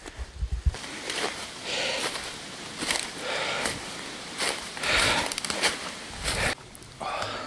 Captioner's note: heavily breathing; leaves crunching